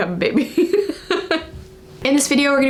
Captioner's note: laughing